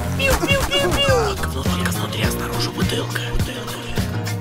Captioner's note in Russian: шепотом